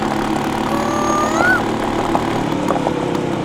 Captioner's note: mimicking cuckoo's voice